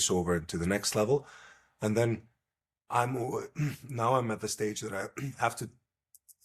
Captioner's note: clears throat